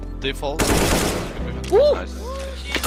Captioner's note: gun fires